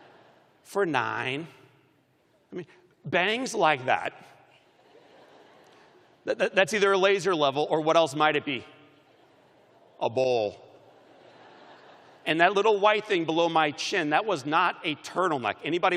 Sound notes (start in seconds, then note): 8.0 laughter